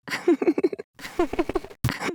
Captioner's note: Lisa's laugh is distorted by static